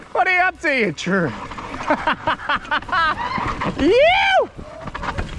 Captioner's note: screams; laughs; cheers